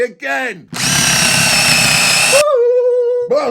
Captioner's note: drill whirling